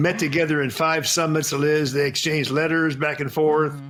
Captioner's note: speaking mandarin